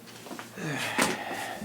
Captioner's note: groan